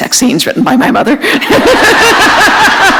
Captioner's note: laughter